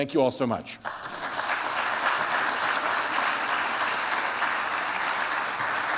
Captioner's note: applause